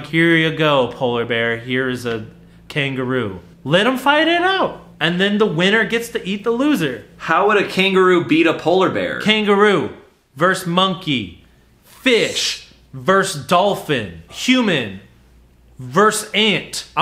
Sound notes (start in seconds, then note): none